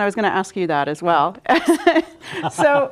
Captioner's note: laughing